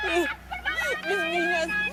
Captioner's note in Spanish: Gritos